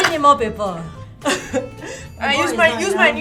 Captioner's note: laughs